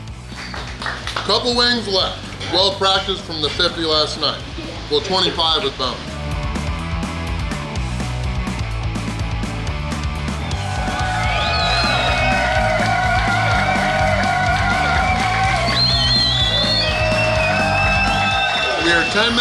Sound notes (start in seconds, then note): 10.3 cheering & Clapping